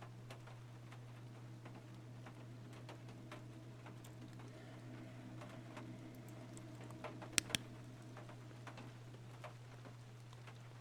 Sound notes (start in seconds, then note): 4.5 rhythmic Huffing; 7.3 flashlight Clicks On